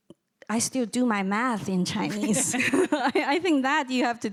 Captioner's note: chuckles